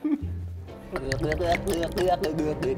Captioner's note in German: Kichern; Gluckern, bedrohliche Klänge